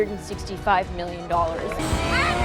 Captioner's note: yelling